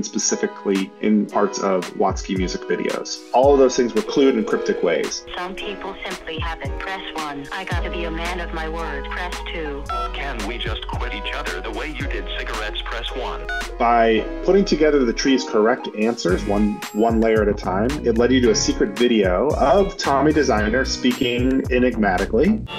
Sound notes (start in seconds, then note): 9.8 dial tone; 22.6 Enigmatic voice